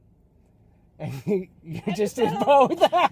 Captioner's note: laughs